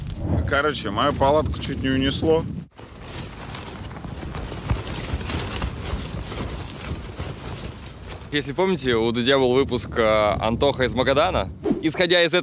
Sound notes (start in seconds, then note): 2.6 rustling and crackling; 2.6 Dud's tent made this sound through the night